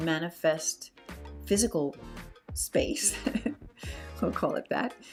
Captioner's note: laughs